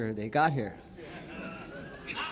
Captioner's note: laughter